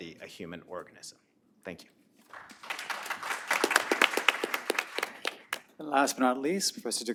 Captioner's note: applause